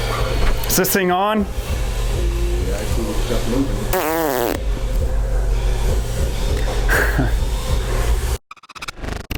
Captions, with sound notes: Is this thing on? *blows raspberry* heh…